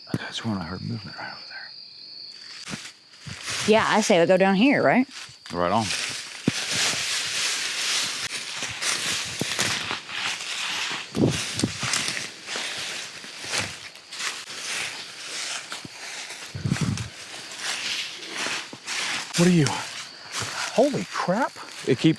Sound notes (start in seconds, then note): 6.9 leaves crunching